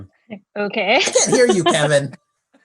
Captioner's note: laughs